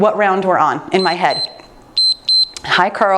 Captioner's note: timer beeps